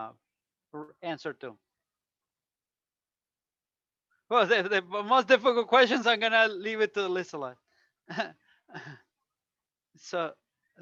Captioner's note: laughter